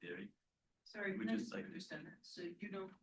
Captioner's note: person chatters